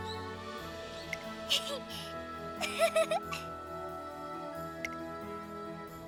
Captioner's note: giggle